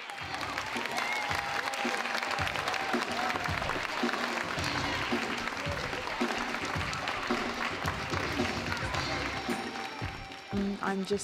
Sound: applause

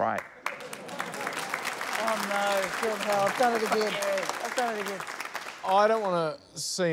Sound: applause

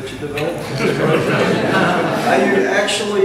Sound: laughter

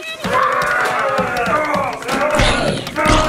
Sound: screams

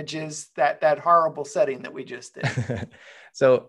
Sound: chuckles

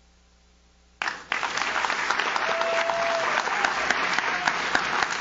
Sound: audience claps

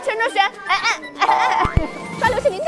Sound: laughing and disappearing

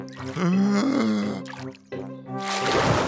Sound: takes a deep breath

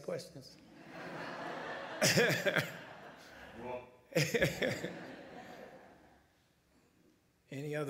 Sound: laughter

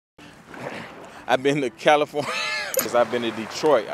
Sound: laughs

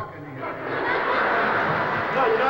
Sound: cheers

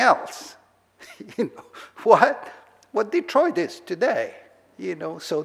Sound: laughs

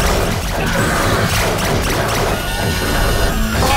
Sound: lasers zapping; Strobo shouting; Trog whirring; metal clanging

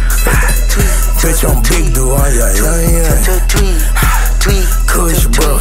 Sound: tweak tweak tweak

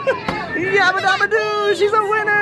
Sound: laughs

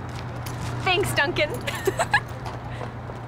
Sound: giggles

